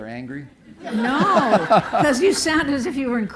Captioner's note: laughter